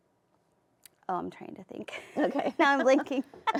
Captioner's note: laughs